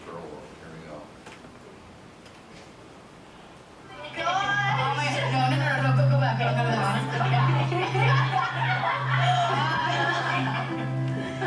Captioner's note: girls chattering, giggling